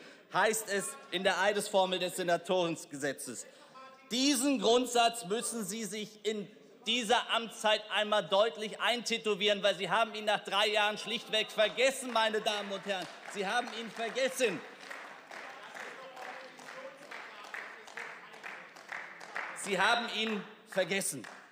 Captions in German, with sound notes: Heißt es in der Eidesformel des Senatorengesetzes. Diesen Grundsatz müssen Sie sich in dieser Amtszeit einmal deutlich eintätowieren, weil Sie haben ihn nach drei Jahren schlicht vergessen, meine Damen und Herren. Sie haben ihn vergessen. (Beifall) Sie haben ihn vergessen.